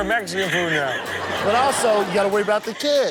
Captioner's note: women laughing